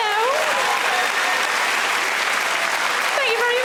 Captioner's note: audience cheering